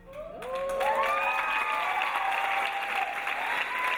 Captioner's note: audience cheering